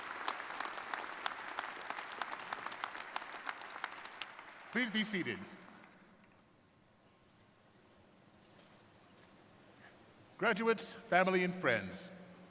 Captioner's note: applause